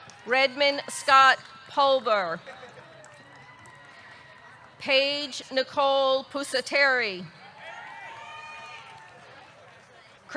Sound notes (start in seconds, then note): 0.0 audience cheering; 0.0 audience clapping; 2.4 audience cheering; 7.5 audience cheering